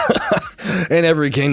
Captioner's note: laughs